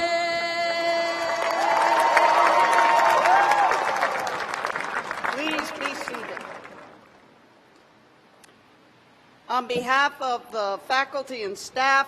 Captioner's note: cheers and applause